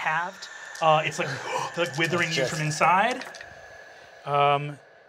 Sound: gasps

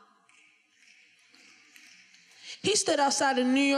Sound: finger snapping

